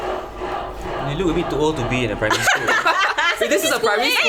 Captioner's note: laughter